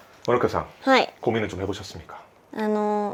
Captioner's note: theatrical tone